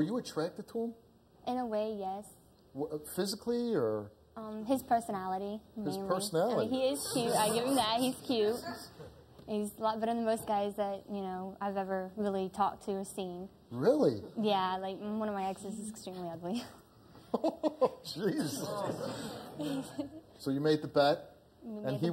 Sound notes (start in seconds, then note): 8.5 audience laughing; 17.3 laughing